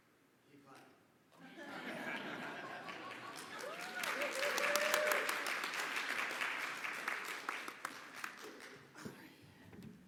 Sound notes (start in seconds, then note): 1.4 audience laughing; 2.0 audience applauding; 4.1 audience cheering